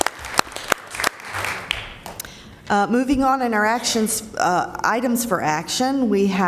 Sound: applause

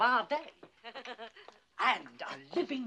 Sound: mrs. cratchit chuckles

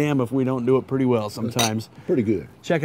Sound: glasses clinking

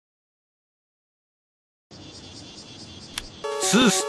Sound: ambient cicada sounds; click

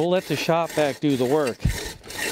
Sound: scraping sound

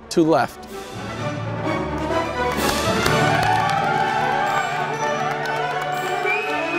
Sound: audience applauding

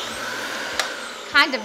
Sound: vacuum whirling

